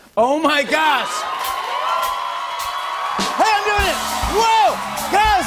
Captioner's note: cheers and applause